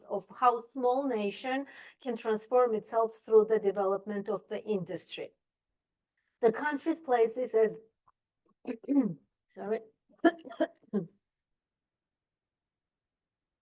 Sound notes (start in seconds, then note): 10.2 clears throat